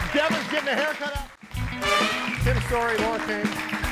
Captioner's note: audience applauding